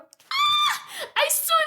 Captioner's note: screams